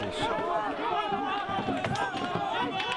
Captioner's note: people shouting